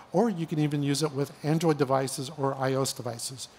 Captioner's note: none